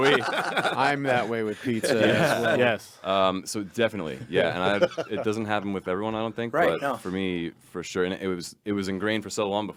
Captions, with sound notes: New York, so are we. (group laughing) - I'm that way with pizza as well. - Yes, yes. - So definitely, yeah. And it doesn't happen with everyone, I don't think. - Right, I know. - But for me, for sure, it was ingrained for so long